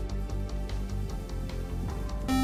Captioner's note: buzzer